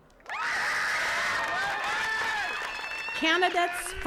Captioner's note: attendees cheering and clapping